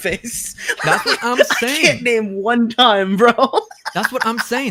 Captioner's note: laughs; laughs